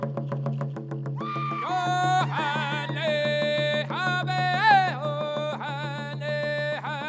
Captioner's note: drums pounding; dancers shrilling; lead dancer chanting